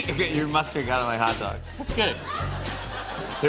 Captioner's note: laughter